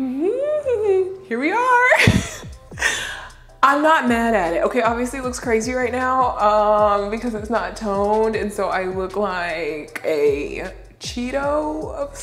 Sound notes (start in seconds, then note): 0.2 laughing nervously; 2.8 laughs